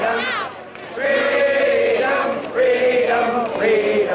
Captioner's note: crowd